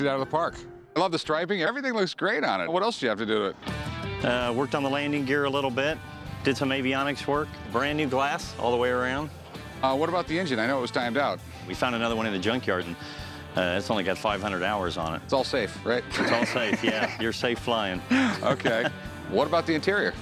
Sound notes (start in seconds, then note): 16.1 laughs